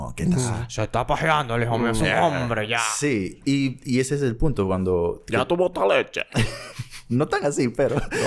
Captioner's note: laughs